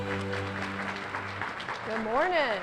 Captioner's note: applause